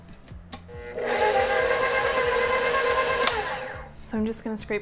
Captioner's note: mixer whirs